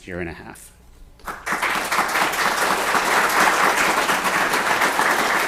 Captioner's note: applause